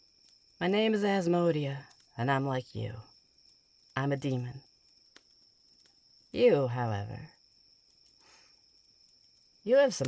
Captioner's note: sniff